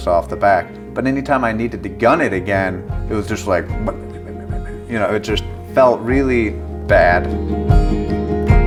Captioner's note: putters out